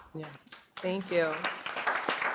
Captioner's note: audience applause